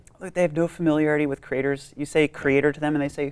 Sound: none

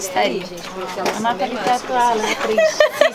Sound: indistinct chatter in the background; indistinct chatter continues

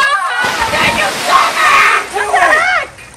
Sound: gasping; screaming

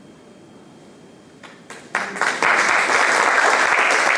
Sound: applause

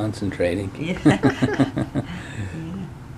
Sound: laughing

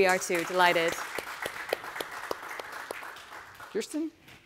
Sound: audience applauding

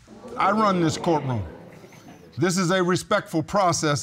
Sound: audience exclaims

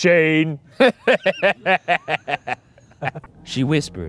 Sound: laughing

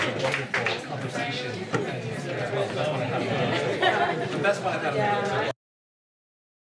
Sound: audience chatter

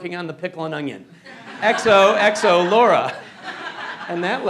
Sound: laughter

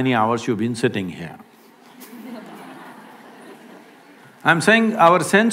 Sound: laughter

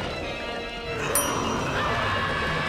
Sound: roaring; screaming

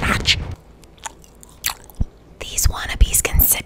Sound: chewing

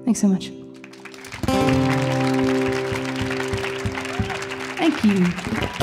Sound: audience applauding

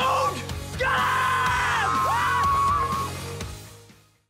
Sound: screaming

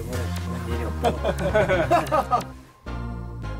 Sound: laughing

